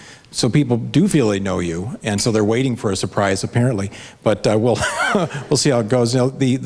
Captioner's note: laughs